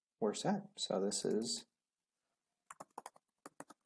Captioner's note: typing